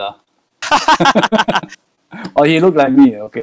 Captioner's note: both Laughs